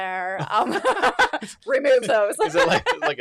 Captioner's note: both laughing